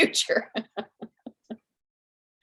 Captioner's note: laughter